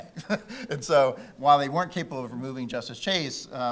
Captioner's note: laughing